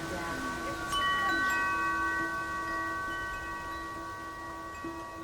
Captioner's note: wind chimes tinkling